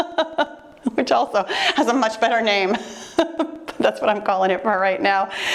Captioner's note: laughing; laughing